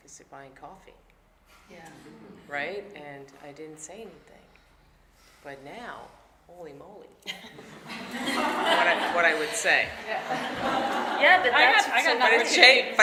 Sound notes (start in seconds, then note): 7.4 audience laughing